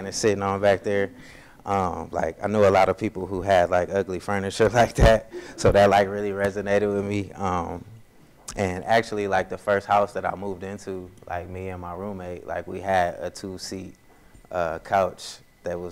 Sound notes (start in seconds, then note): 4.9 laughs